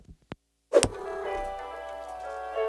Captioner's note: cat purrs